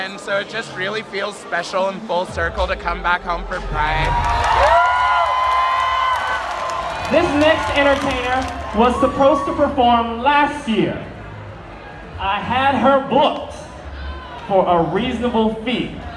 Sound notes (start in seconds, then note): 3.5 cheering